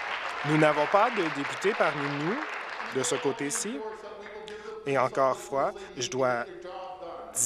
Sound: applause

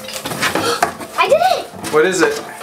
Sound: gasps

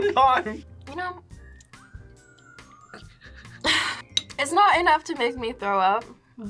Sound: chuckles

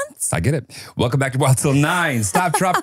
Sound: laughs

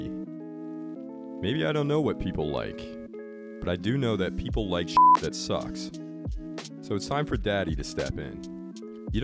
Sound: beep sound

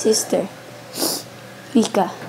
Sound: sniffle

